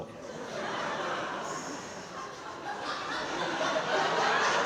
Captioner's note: crowd laughing